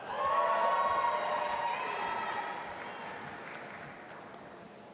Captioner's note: audience applauding and cheering